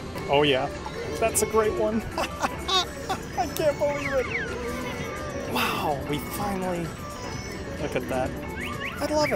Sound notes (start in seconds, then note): 2.0 laughs loudly